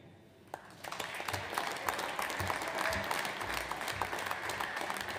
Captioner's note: audience applauds